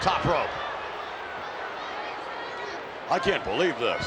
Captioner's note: crowd yelling